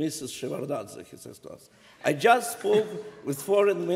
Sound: laughter

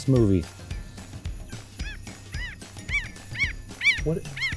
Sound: animal sounds

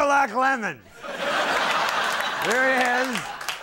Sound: audience laughing

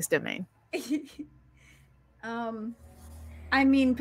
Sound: laughs

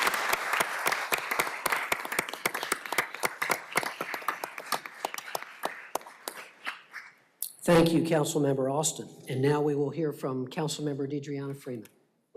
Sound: applause

